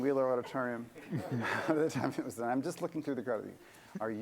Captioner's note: laughter